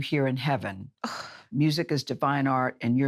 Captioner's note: sighs